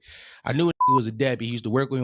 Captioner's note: beep